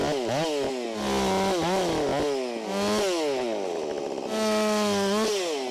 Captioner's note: chainsaw roaring continues